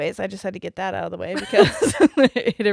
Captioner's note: both laughing